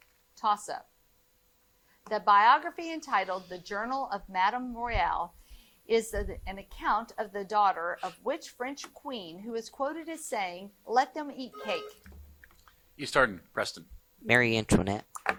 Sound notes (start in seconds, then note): 11.5 buzzer buzzing